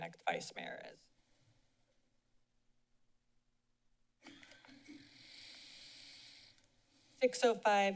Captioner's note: silence